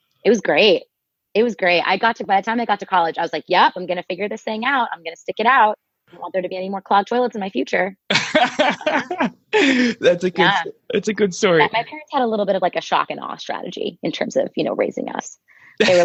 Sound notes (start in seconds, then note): 8.1 laughing